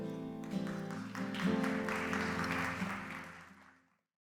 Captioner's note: applause